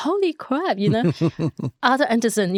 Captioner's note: laughing